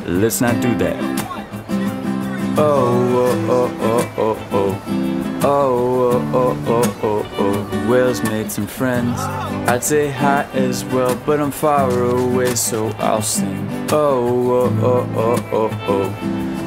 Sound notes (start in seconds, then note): 9.0 man groans